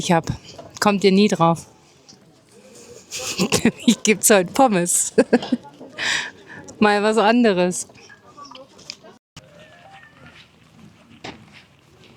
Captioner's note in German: gelächter